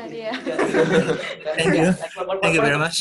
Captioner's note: laughter